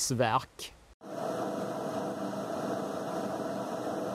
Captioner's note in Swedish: Maskinen brummar konstant